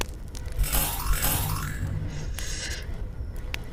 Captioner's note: weapons power up